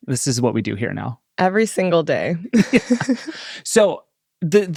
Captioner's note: laughs